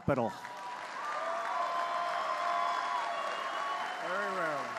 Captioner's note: applause